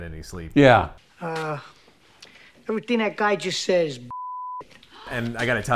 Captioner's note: beep